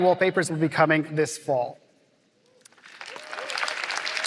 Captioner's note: applause